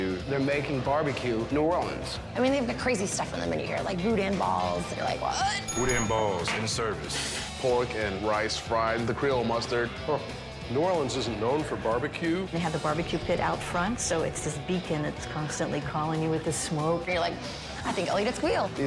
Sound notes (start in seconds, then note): 5.6 bell rings